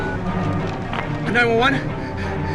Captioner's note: panting; phone beeping